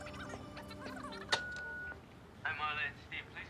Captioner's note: answering machine beeps